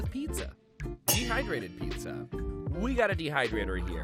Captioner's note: metal clangs